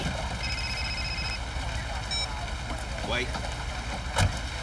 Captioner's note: phone ringing